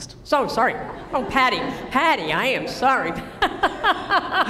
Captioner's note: laughter